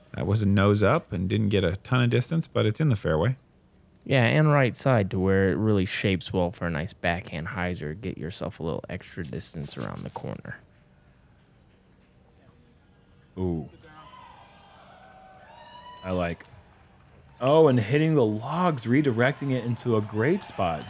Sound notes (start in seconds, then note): 13.8 applause